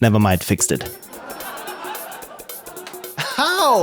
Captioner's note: laughter